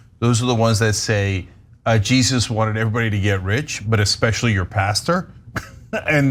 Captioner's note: laugh